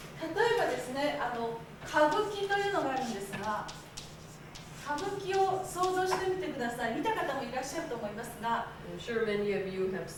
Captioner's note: speaking Japanes